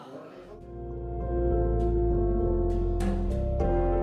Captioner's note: sounding gavel